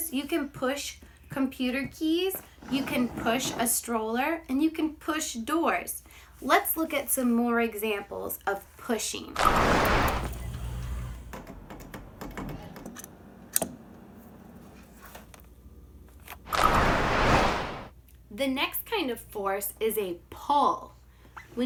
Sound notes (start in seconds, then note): 11.4 soft clatters